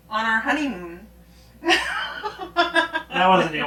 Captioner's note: laughing